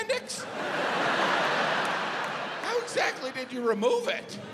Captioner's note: audience laughs